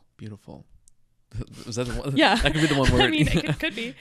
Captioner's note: laughs